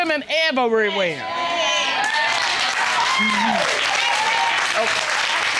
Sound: cheers, applause

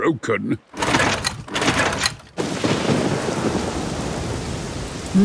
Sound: engine struggling

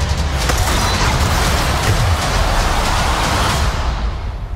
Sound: explosion

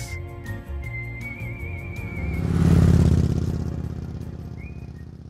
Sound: lively music; bike roaring

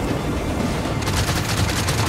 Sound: wind howling

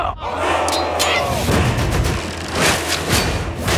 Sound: yelling

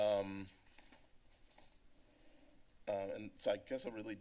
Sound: rustling sound

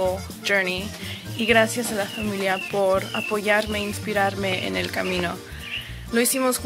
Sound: speaks in foreign language

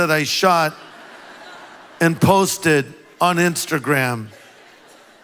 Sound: congregation laughs

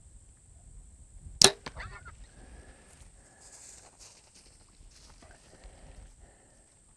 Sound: arrow clicks; hog squeals

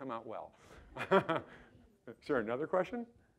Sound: laughing

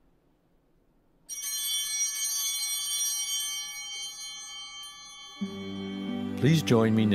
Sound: chimes ringing

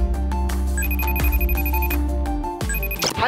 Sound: line ringing

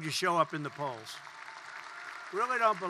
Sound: applause

